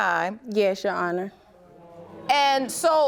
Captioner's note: audience groaning